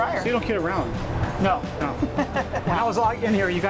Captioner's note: chuckles